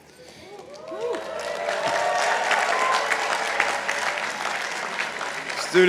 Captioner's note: participants applauding